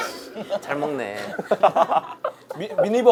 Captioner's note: laughing